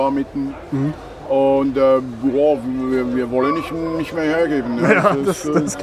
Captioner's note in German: lacht